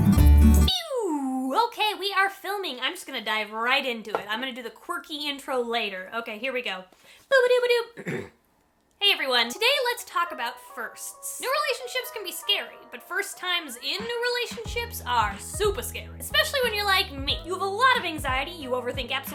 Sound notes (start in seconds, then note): 7.9 clears throat